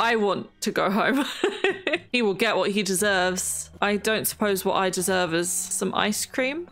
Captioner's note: laughs